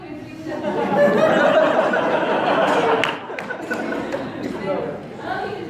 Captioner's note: audience laughs